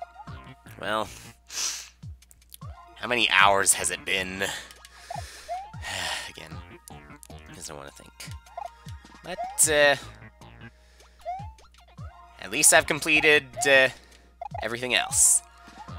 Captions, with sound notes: Well... How many hours has it been? (*sigh*) I just don't wanna think. But... At least I've completed...everything else.